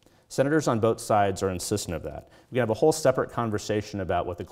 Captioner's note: none